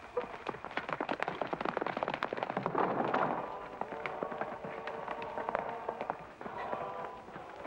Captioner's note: hooves pounding